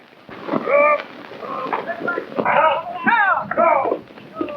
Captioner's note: men shouting